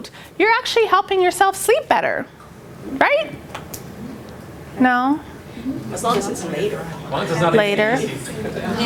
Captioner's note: laughter